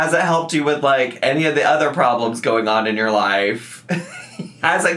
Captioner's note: laughs